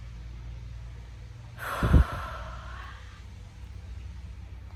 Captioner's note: breathes out slowly